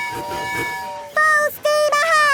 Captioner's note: tooting